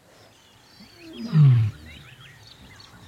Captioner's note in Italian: ruggito